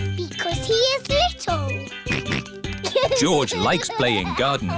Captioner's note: snorts